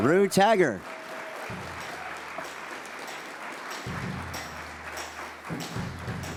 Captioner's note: audience applauds